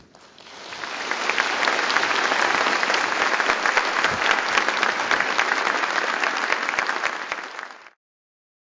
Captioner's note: applause